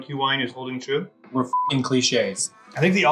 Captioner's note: beep